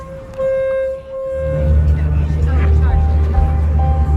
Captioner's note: boat horn